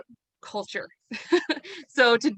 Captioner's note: chuckles